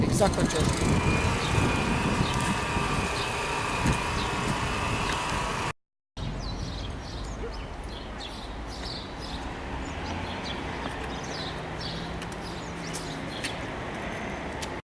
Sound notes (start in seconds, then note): 1.8 giant air conditioner noise; 6.2 birds singing